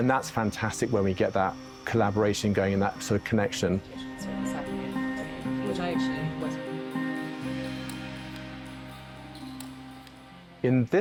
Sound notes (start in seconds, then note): 4.4 woman speaking quietly; 7.8 suspenseful music